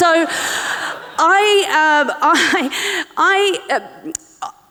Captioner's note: audience laughing